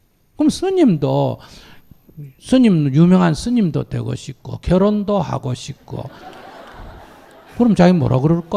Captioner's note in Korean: 청중 웃음